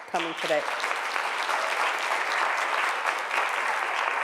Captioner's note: applause